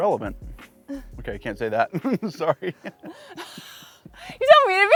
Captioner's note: laughs